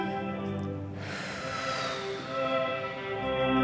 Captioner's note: long, slow sigh